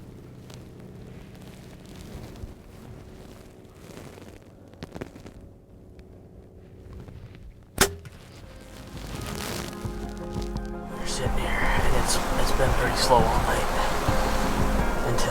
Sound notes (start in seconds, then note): 7.8 bow and arrow thump; 8.4 soft instrumental music